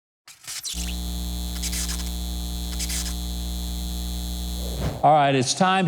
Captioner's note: sign flickering and buzzing